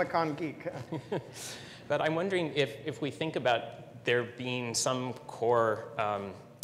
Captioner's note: laugh